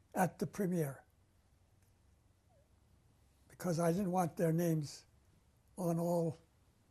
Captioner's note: pauses for 3 seconds